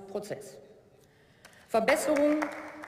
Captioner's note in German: Beifall